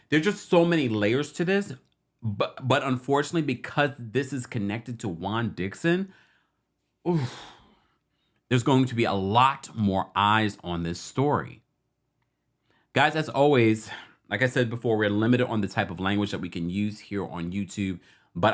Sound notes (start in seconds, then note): 7.0 sighs